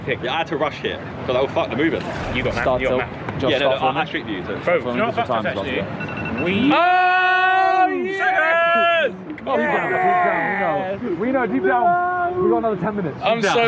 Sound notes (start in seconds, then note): 6.0 timer beeping; 7.0 ETHAN and TOBI shouting